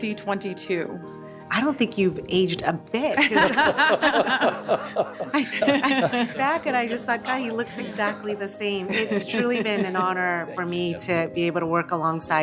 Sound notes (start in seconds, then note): 7.8 laughter